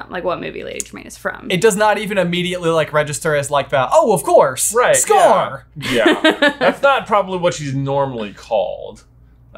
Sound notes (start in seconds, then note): 5.8 laughing